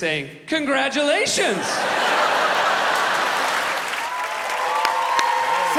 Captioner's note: laughter, cheers, applause